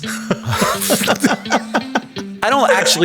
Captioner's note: Hank and Sam laughing